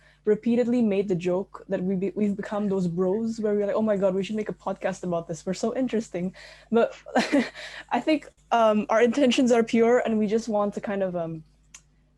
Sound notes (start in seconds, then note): 6.6 chuckles